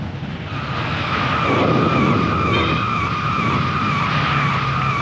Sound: wheels skidding

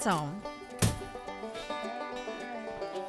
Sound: thud

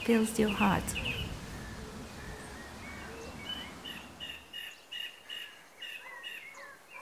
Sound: nature sounds

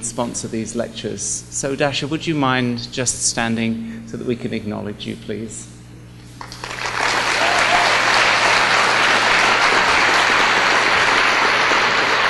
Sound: applause

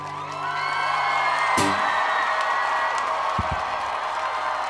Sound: crowd cheering

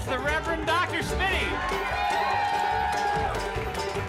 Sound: audience cheering

